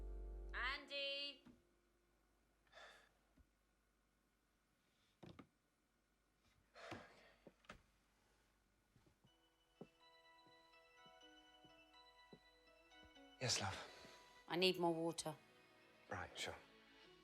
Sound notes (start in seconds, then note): 6.0 sighs; 9.2 light music